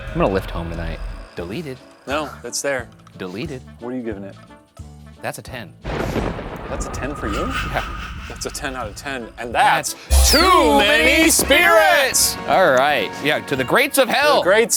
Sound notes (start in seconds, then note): 5.8 thunder crashing